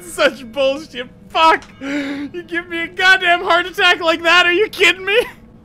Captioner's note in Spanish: inhalar